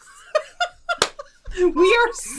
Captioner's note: laughing and clapping